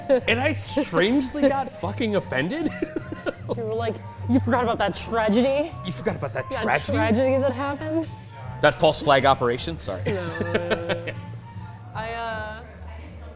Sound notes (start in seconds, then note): 2.6 laughs; 10.0 laughs